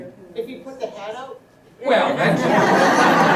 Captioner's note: laughter